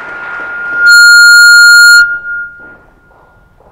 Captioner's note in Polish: oklaski; sprzężenie mikrofonu